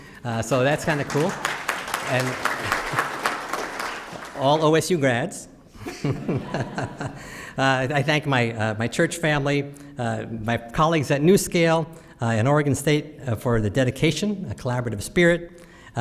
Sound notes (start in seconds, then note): 2.2 applause